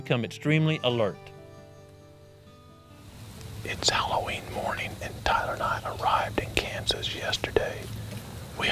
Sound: whispering

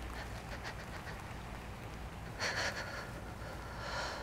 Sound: dying breaths

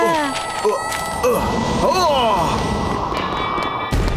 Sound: grunting

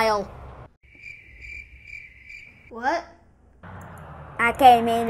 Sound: chirping crickets

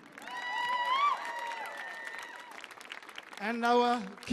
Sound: audience clapping; audience cheering

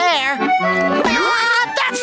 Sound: laughing

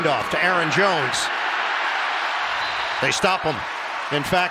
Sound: whistle blowing

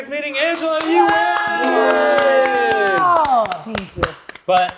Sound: group applauds

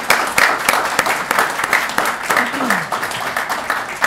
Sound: applause

